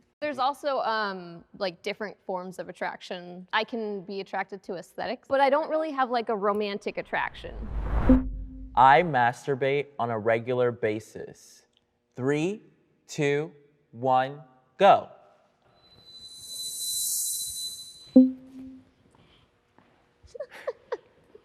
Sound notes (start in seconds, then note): 18.2 banner dinging